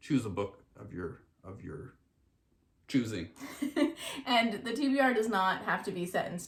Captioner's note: laughs